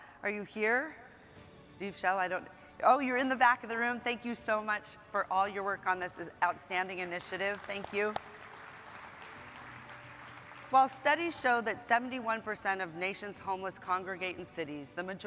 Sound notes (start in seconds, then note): 8.0 audience applauding